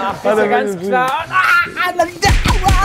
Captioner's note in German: Schrei